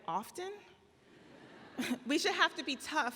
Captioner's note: audience laughs